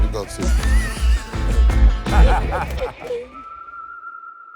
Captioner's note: laughter